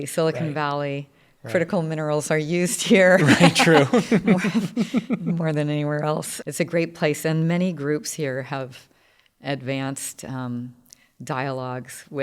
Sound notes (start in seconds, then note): 2.9 laugh